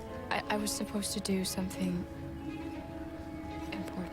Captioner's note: none